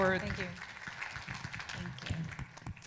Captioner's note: audience applauding